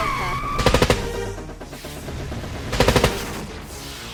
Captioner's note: gunshots blasting